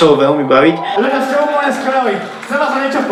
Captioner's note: crowd cheering